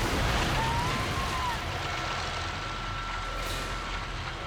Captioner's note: silo collapsing; people screaming; bulldozer humming